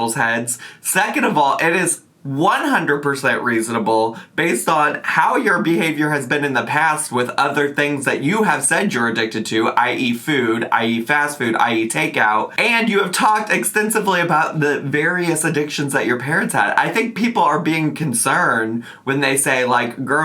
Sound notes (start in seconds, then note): none